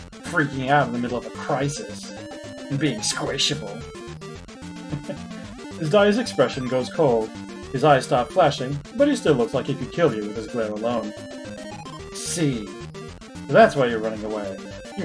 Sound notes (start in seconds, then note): 4.8 chuckles